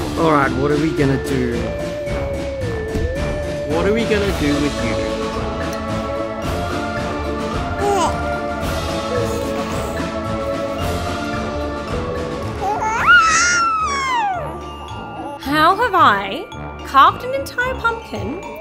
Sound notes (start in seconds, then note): 5.7 upbeat music; 7.9 coos; 7.9 upbeat music; 12.9 screeches